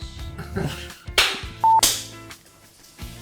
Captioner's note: claps